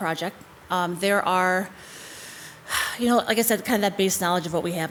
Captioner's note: sighs